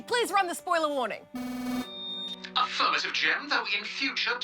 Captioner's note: electronic buzzer sounds